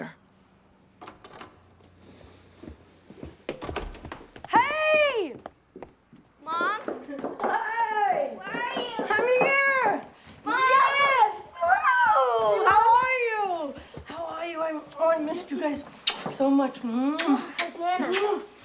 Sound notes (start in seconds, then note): 0.9 front door opens; 3.5 door closes